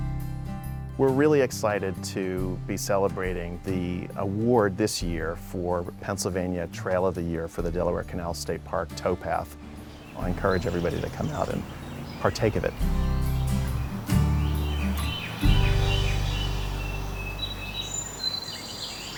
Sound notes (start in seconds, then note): 13.0 birds chirping